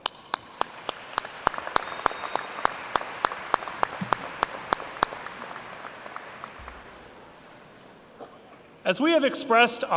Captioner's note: applause